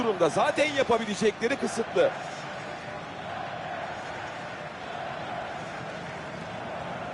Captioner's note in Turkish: coşkulu tezahürat